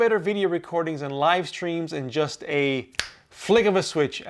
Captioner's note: fingers snapping